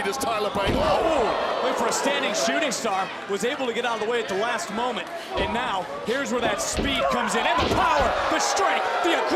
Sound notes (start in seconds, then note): 1.3 crowd reacts